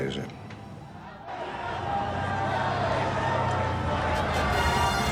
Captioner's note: car engine revving